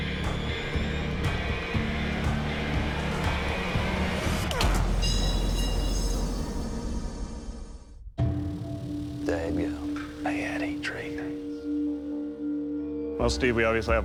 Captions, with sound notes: [clanging] Daggone. Well, Steve, we obviously have a problem here.